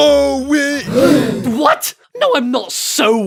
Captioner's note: everyone gasps